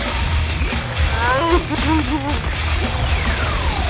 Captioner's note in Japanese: 魔物のうなり声